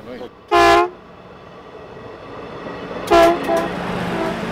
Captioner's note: train honking